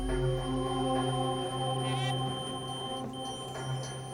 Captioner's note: metal detector beeps